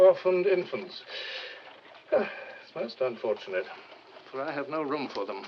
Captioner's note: inhales, sighs